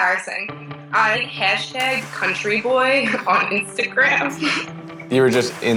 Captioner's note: giggles